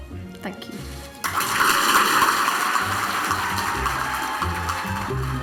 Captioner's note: audience applauds; upbeat orchestral music